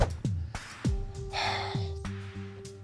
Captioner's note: sighs